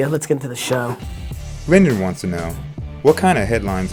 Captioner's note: voiceover